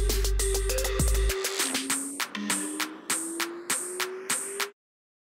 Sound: rising whistle tone

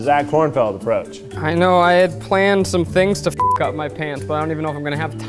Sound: beep

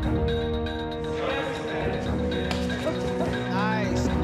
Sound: indistinct chatter

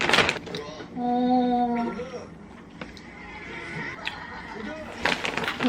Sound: opening the granola bag; eating granola

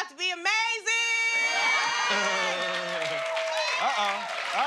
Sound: cheers and applause

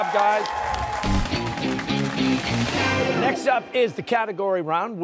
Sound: cheers and applause

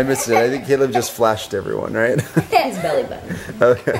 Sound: chuckles

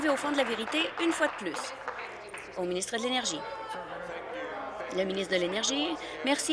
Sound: applause

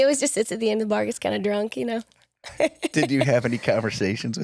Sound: laughs

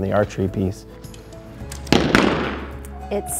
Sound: sound of arrows hitting targets

